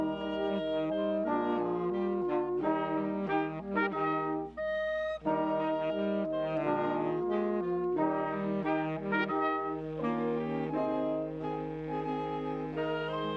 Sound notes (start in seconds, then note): none